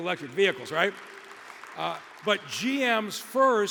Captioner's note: audience applauding